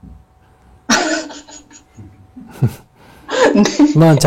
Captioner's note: questioner/ Laughter